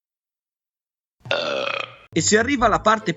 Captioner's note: burp